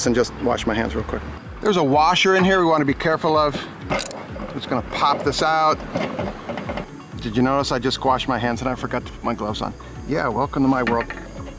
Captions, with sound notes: and just wash my hands, real quick. There's a washer in here, we wanna be careful of. It's gonna pop this out. (wheel rocking) Did you notice that I just washed my hands, and I forgot to put my gloves on. Yeah, Welcome to my world.